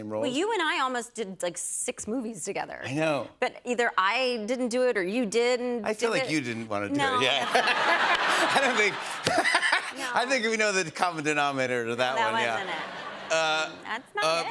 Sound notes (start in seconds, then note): 7.0 laughs; 7.1 laughter